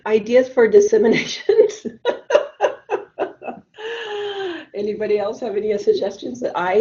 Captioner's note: laughs